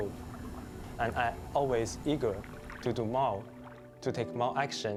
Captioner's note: speaking Chinese